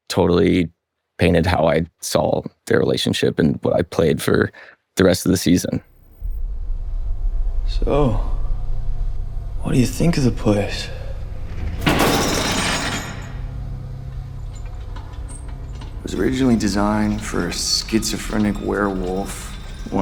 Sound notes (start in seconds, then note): 6.6 tense music; 12.0 chains rattling; 13.9 tense music